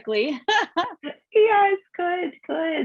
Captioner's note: laughs